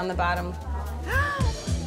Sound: gasping

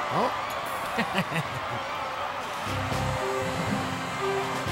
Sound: laughing

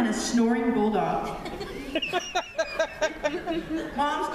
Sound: laughter

